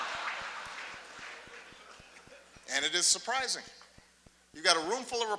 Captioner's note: laughter